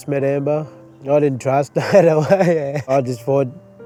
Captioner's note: laughs